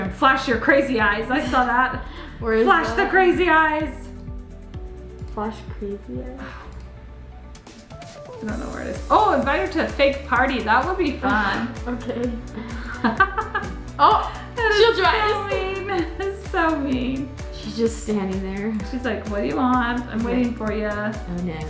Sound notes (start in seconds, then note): 13.2 laughs